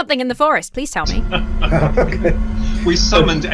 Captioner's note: experts laughing